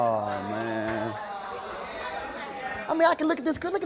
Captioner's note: clapping